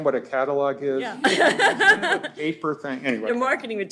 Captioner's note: laughter